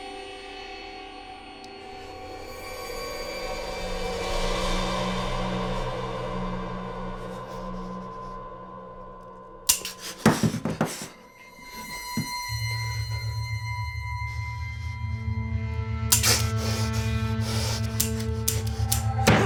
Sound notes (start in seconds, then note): 9.7 Mark panting; 9.9 gun clicks; 16.1 Mark panting; 16.2 gun clicking